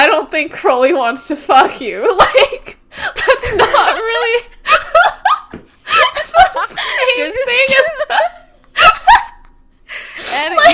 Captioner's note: laughing; both laughing; laughing